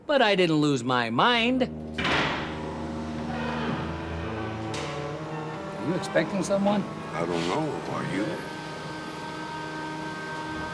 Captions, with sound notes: (mechanical whirring) Are you expecting someone? I don't know. Are you?